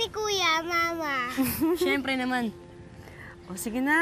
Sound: mom chuckles

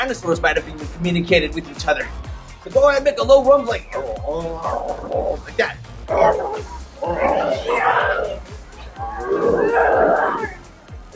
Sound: growling

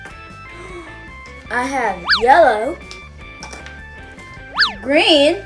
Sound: gasps

